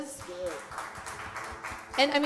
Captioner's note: applause